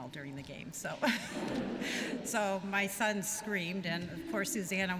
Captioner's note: laughter